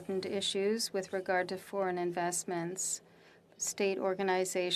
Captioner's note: speaking French